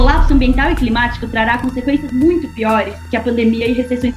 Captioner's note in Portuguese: sirene tocando